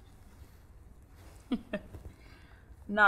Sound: chuckles

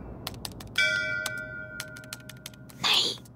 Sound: temple bell clanging

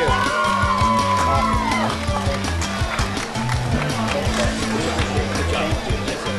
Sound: cheering

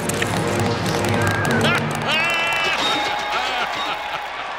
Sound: laughing

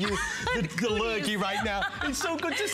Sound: laughter

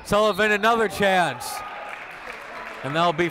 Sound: whistle

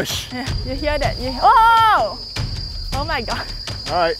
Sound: laughs

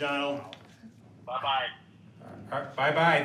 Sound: on phone

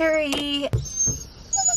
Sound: whining

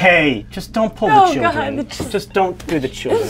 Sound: fake crying

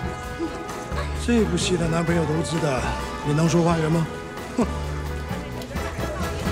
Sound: speaks in foreign language

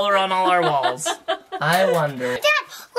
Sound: laughs

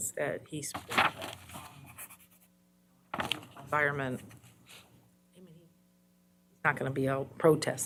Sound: audio cuts out

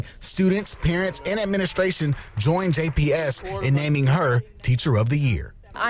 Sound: cheers and applause

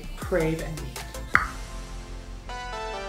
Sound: tongue click; upbeat electronic music

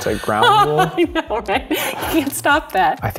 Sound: laughs

